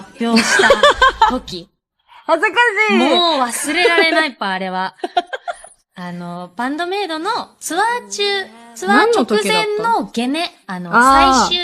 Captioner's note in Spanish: risas